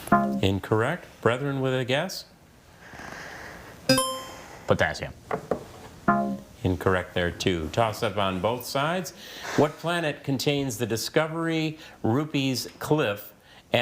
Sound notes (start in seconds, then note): 0.1 text buzzing; 3.9 buzzer chiming; 6.1 text buzzing